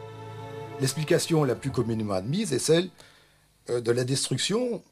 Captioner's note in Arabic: الصوت المنطوق باللغة الفرنسية